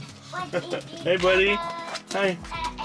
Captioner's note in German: lacht